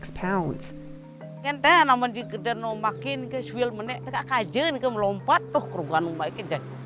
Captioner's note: speaks in a foreign language